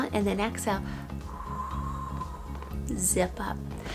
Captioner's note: exhales